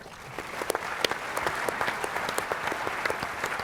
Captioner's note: applause